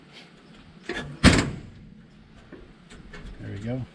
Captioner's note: banging